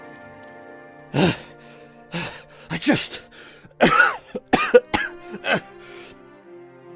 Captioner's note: gasps; gasping, coughing